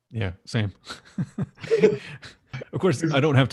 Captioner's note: laughs